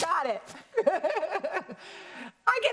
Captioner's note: laughs